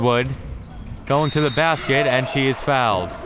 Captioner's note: whistle